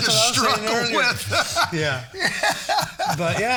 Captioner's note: laughing